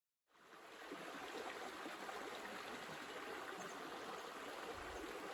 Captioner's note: river flowing downstream